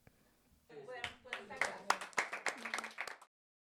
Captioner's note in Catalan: Aplaudiments